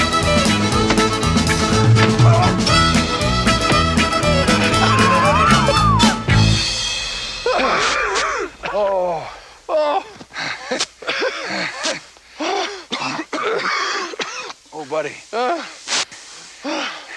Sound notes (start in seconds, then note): 7.4 both gasping; 9.0 both laughing; 12.1 both coughing; 16.6 Joe sighing